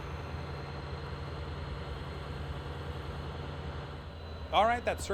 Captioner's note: plane engine roaring